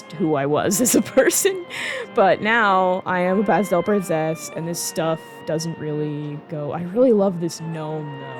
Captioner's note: laughing